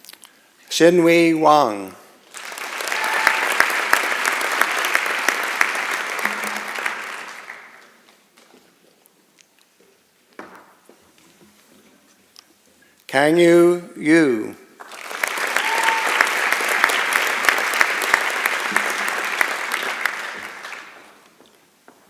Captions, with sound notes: Xinyi Wang. [ Applause ] Kangyu Yu. [ Applause ]